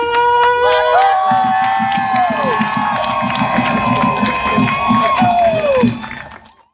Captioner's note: crowd cheering